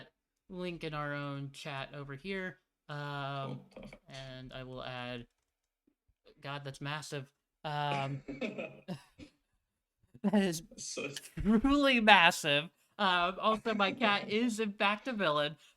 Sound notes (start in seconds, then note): 7.7 chuckles